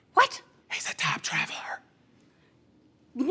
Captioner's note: stage whispering